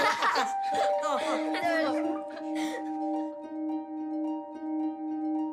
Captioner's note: all laugh; laughs; poignant music